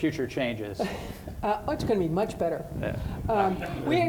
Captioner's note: laughs